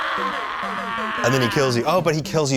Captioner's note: screaming